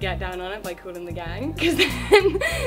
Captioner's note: laughs